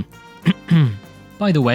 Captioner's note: clears throat